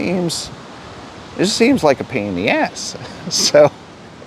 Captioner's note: chuckles